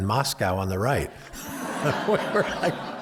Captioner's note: laughter